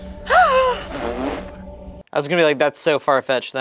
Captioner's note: gasps; blows raspberries